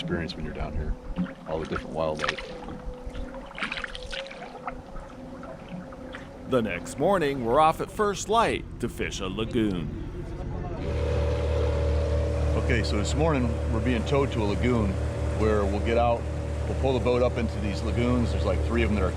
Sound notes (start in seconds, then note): 3.9 water lapping; 7.0 howling in distance; 11.6 boat engine running